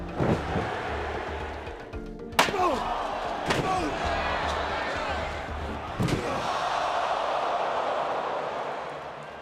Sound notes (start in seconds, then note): 0.0 pensive music; 0.3 crowd murmuring; 2.6 Undertaker grunting; 2.7 chair thumping; 6.5 crowd gasping